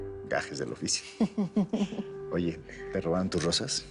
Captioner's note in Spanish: Risas